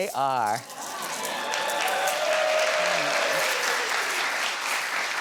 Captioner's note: audience cheers